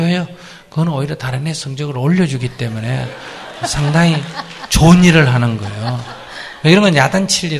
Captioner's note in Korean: 청중 웃음